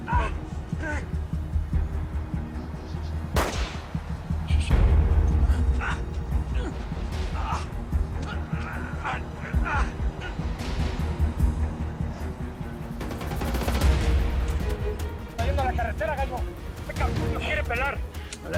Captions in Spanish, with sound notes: !AHHH! [Disparos] [Quejidos] - SE ESTA YENDO A LA CARRETERA, GALLO. ESTE ------ SE NOS QUIERE PELAR.